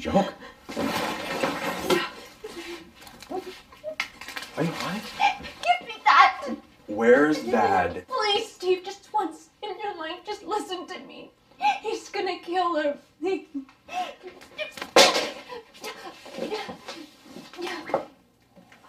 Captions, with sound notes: Is this some fucking joke? - Are you high? - Give me that! Where is dad? Please, Steve. Just once in your life, just listen to me. He's going to kill her [whimpering] [Clanking sound]